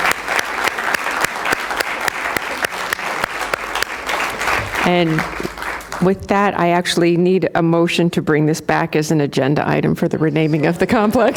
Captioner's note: applause